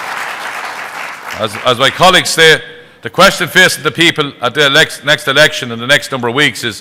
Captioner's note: applause